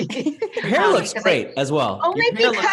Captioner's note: laughs